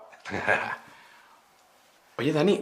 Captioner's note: laughs